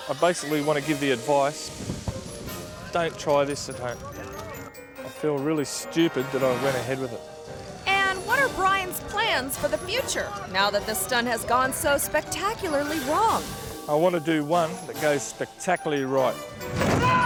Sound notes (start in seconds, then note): 2.0 fire rustling; 17.0 Mr. Inferno yells